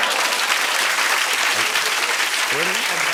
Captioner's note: cheers and applause